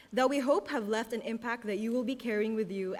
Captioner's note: none